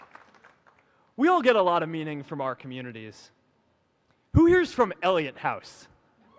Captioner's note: applause